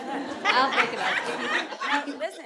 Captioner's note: audience laughing